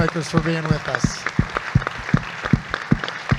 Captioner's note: audience clapping